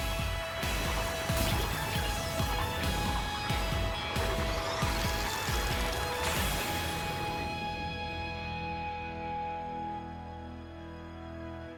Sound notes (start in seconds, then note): 3.4 explosions; 7.7 song ends